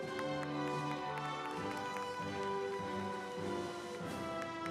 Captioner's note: audience applauds